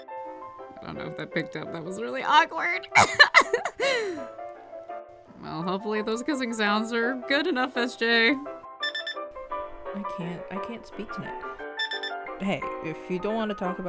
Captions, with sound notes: I dunno if that picked up. That was really awkward! [cackles] Well, hopefully those kissing sounds are good enough, SJ! I can't– I can't speak tonight.